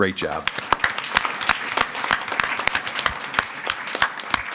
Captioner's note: audience applauding